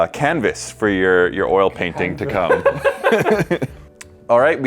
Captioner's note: laughing